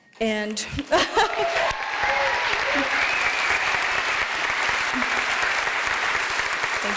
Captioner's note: applause